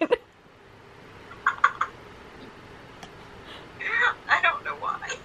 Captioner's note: laughs